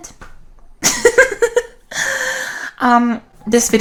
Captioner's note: laughs